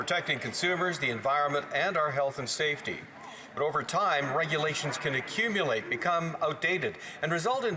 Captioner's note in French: voix de l'interprète